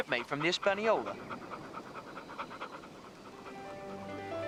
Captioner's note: Patch panting; classical music